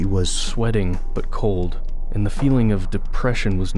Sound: voiceover

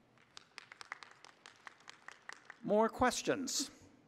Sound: applause

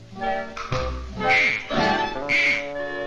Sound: quack

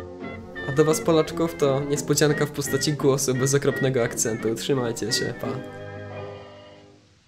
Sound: Polish

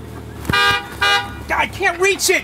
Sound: horn honking

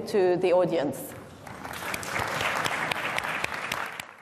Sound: applause

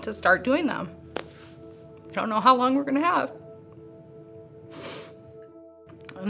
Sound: sniffles

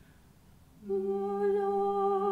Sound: a capella music; humming; singing

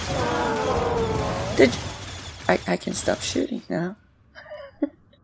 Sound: chuckles

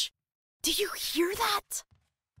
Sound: faint footsteps approaching

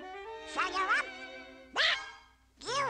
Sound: exclaiming

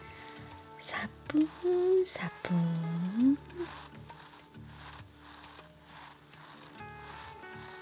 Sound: korean onomatopoeia of a very light tiptoeing sound

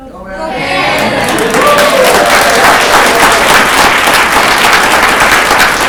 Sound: audience clapping

